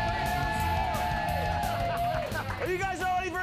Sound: audience cheering

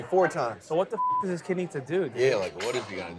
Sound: beep

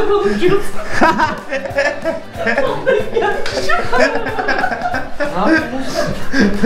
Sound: laughs

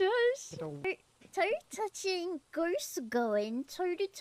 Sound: uwu voice

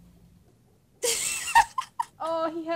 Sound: laughs

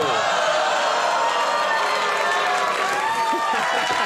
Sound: audience laughs; Conan Laughs

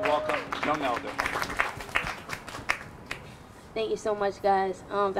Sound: crowd applauding

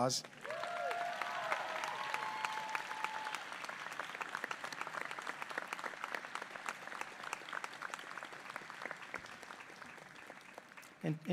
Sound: applause

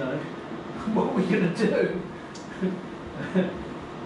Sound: laughs

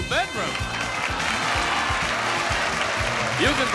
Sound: upbeat music; audience applauding

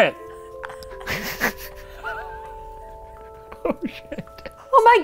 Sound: sobs and laughs

